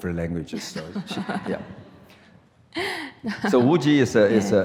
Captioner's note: laughs